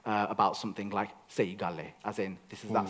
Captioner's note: in Punjabi